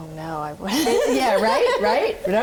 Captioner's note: laughs